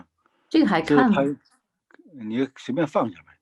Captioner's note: speaking in foreign language